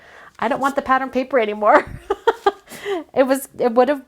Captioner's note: laughs